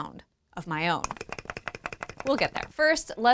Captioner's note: clicking